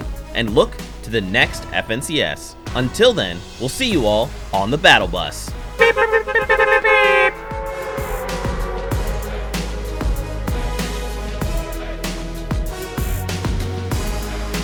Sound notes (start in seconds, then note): 5.8 beep bee-bee-bee beep beeeeeeep